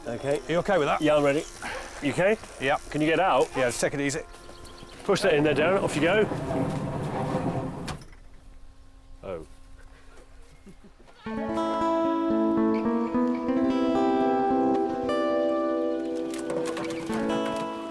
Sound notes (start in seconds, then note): 6.4 wood scraping; 11.2 gentle guitar music